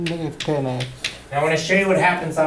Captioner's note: voiceover